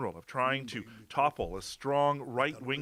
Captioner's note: speaking French